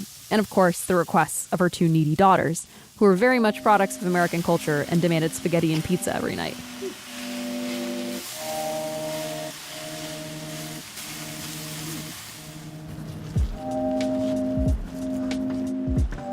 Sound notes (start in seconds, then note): 7.2 sizzling; 8.9 chill electronic music